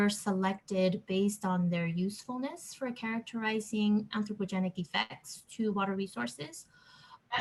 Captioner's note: background interference